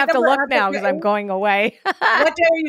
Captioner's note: laughs